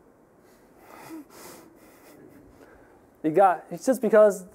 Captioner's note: chuckling